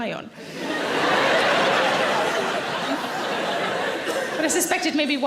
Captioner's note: audience laughing